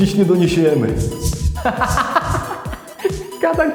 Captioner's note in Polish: Śmiech Antka